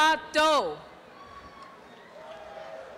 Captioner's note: applause and cheering